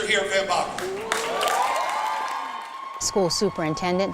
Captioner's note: cheering